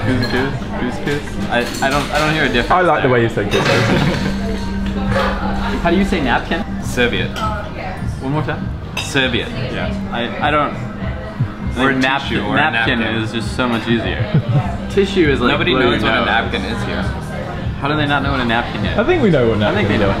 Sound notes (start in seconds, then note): 3.6 laughing